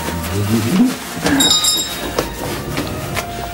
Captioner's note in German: Klingel läutet